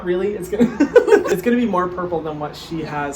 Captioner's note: laughs